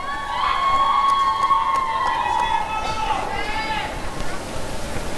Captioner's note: applause and cheering